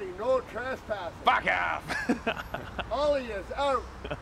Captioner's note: laughs